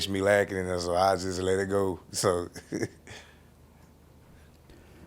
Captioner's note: chuckling